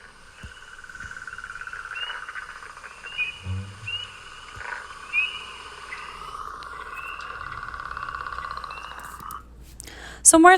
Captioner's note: northern Leopard Frog vocalization